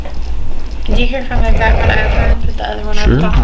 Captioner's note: static